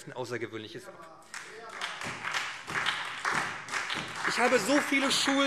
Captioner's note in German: Beifall